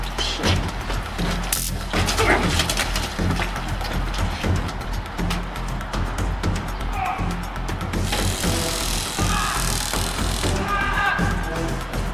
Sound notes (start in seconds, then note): 1.5 stun gun crackles; 7.0 Bobby yelling; 8.0 stun gun crackling